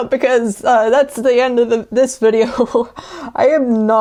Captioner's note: laugh